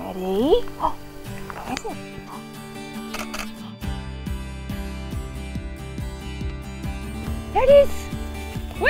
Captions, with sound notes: Ready? Where is it? (camera shuttering) There it is!